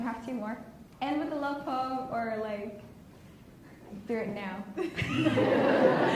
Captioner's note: laughs